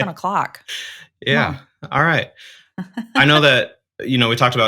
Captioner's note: chuckles